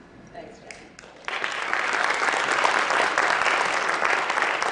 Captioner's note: applause